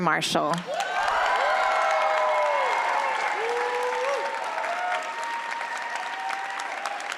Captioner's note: applause